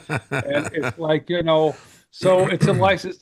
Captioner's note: laughing